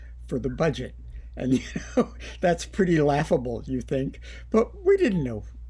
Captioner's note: laughter